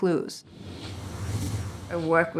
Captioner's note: whooshing